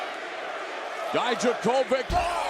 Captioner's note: crowd chattering